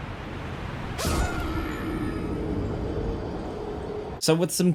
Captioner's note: character screams